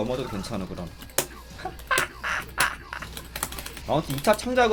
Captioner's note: laughter